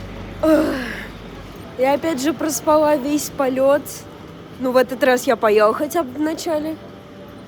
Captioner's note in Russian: вздох